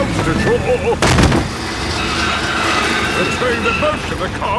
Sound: thud

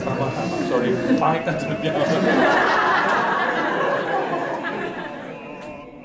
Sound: laughs louder

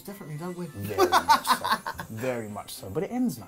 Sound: laughs

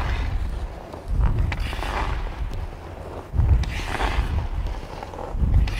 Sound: hockey stick scraping

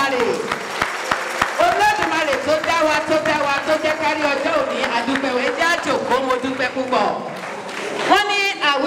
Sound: applauds

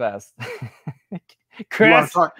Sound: laughs

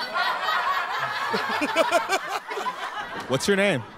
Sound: laughs

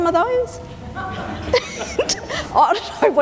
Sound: audience laughter

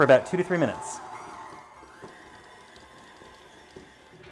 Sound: mixer whirring

